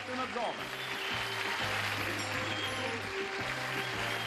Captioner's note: applause